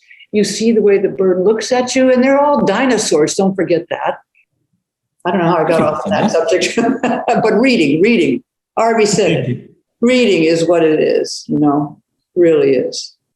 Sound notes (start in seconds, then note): 5.6 laughs